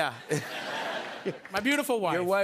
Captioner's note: laughter